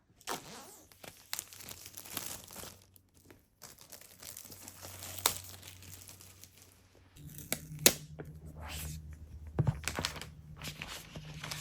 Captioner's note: ruffling